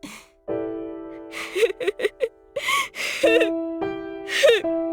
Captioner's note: laugh, but starting to break into tears; awkward laugh